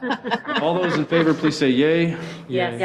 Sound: laughing

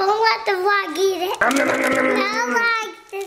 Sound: growling

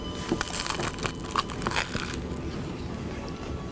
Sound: crunch

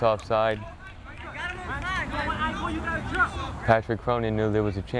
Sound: players talking and yelling

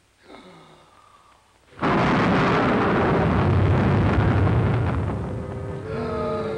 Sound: Ebenezer gasping; eerie booming

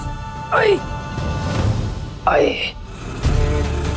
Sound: grunting; tense music playing

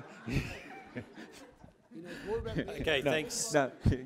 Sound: laughter

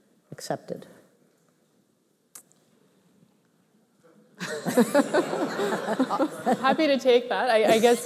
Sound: laughter

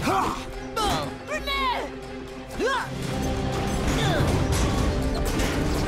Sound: grunting; grunting

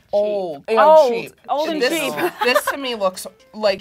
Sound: laughs

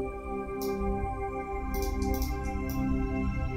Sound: mouse clicking

